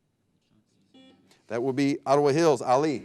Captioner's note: buzzer beeping